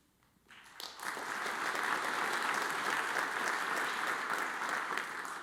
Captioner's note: audience applauds